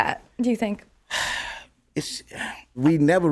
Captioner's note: sighs